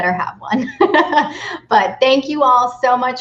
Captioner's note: laughs